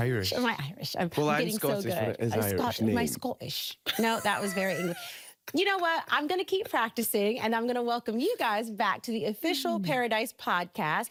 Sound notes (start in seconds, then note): 2.8 English accent; 3.9 laughing